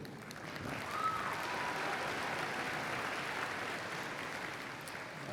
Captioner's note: applause